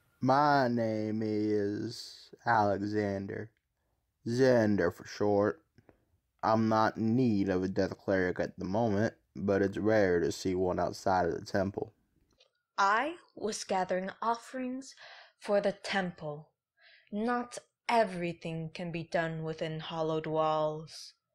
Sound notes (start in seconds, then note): none